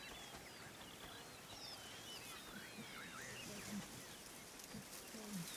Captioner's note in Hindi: चहचहाहट